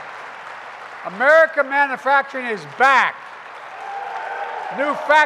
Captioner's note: applause